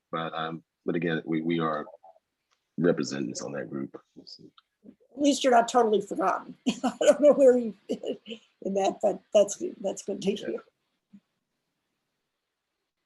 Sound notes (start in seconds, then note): 6.6 laughs lightly